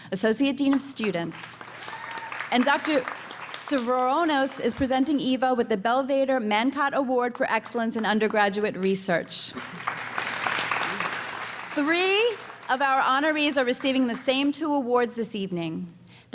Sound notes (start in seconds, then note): 1.5 cheering and applause; 9.5 applause